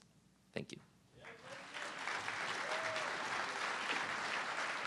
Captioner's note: audience clapping